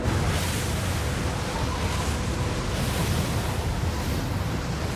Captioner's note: strong wind roars